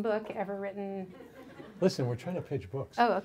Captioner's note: audience laughs